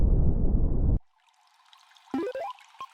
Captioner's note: water burbling